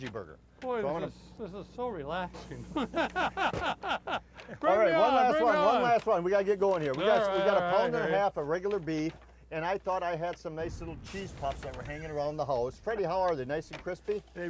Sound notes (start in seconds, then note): 2.4 laugh